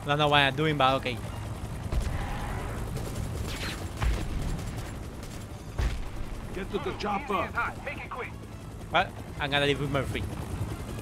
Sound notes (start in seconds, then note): 3.4 guns firing